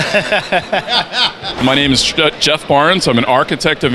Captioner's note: laughter